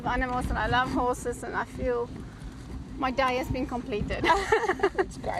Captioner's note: laughs